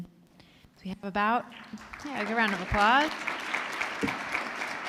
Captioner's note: applause